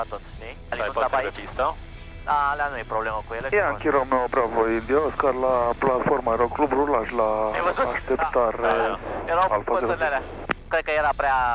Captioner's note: radio chatter